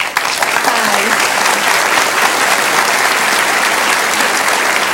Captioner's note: audience applauds